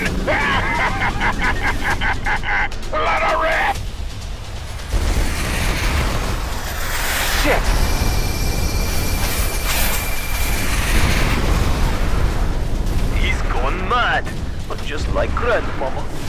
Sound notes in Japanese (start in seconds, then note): 0.0 不快な笑い; 5.0 シューという攻撃音